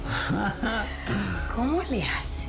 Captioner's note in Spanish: Risas